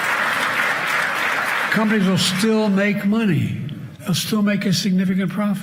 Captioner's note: cheers and applause